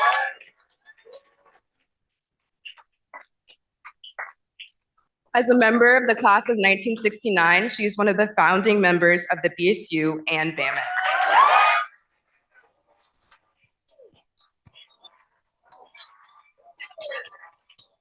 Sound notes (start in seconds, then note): 0.0 cheering; 12.4 cheering